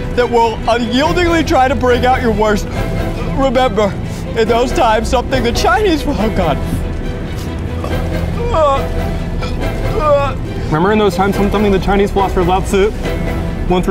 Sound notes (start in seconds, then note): 7.7 burping; 9.9 yelling